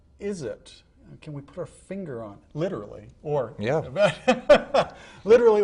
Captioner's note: laughing